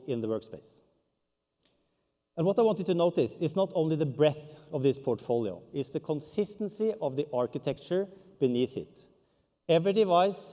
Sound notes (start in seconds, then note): none